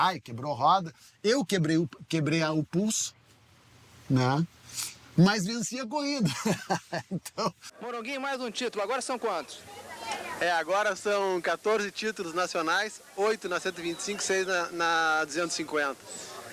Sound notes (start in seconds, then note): 6.2 laughing